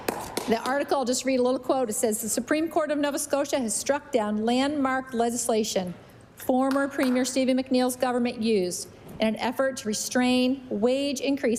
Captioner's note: applause